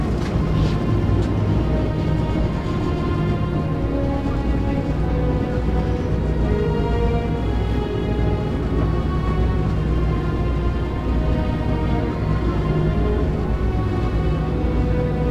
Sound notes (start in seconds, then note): 5.0 people talking and walking off the boat